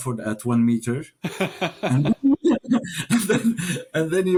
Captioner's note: both laugh